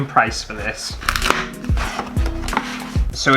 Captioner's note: box Ripping